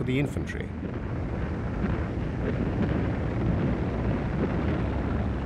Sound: tanks rumbling

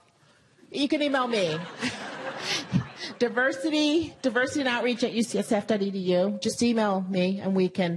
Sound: laugh

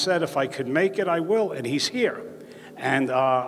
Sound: none

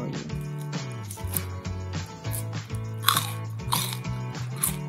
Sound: crunching

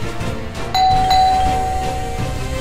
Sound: doorbell ringing

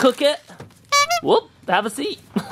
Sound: honk

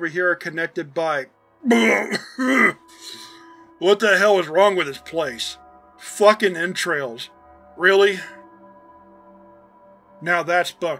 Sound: vomits

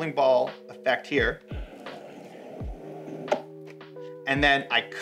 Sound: bowling ball rolling

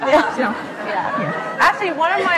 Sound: laughs

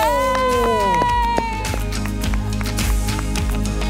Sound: Santa and Sabu cheer

